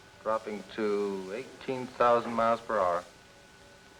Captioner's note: none